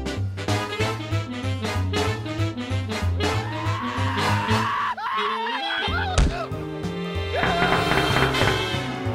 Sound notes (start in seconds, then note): 3.4 shrieking; 7.5 pounding on glass